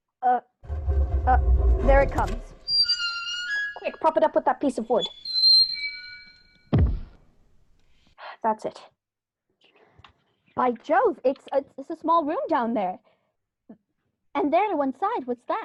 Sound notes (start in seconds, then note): 0.6 creak of hinges; 0.6 scrape of stone; 6.7 thud